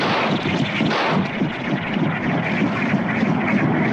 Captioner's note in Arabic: إطلاق نار